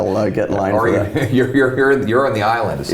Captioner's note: Pierre laughs